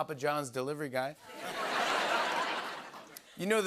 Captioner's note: laughter